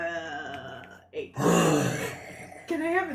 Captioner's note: growls